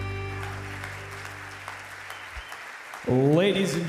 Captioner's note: audience clapping